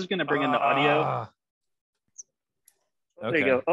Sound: groaning

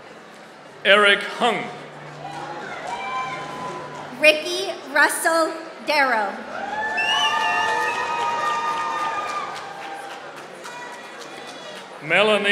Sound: applause

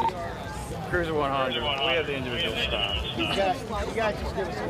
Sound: radio chatter

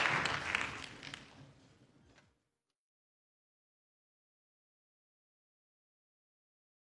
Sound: applause

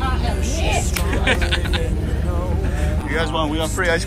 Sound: laughs

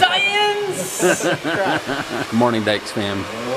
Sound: laughter

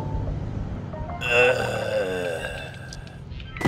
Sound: groaning

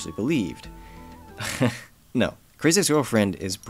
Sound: laughs

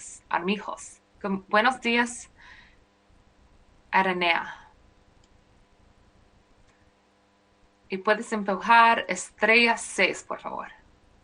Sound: speaking spanish

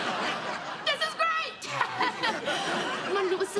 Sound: laughing awkwardly

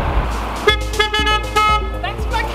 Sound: car horn beeps

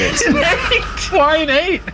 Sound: laughing

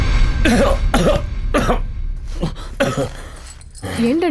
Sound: coughs

